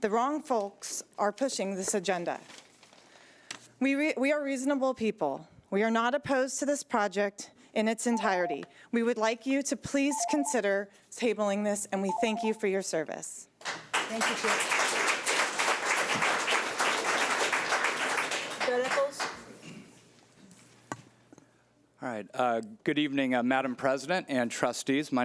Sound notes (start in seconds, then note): 8.1 timer trills; 13.7 audience applauds